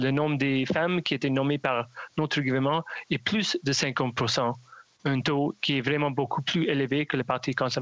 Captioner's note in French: voix de l'interprète